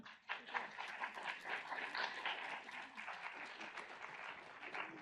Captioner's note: audience applauds